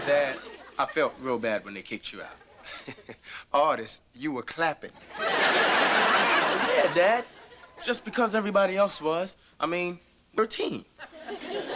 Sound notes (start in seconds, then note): 2.2 chuckles; 5.0 audience laughter; 11.0 audience laughter